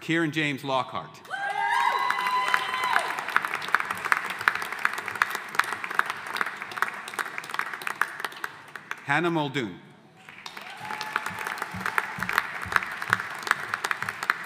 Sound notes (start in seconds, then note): 1.5 audience applauding